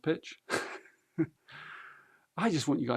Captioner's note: laughs